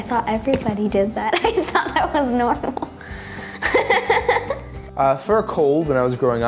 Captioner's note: laughs